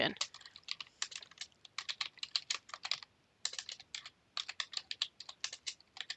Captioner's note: keys clicking